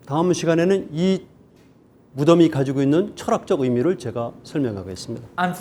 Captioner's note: speaking in Korean